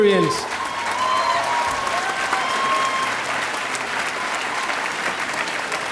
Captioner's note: audience applauding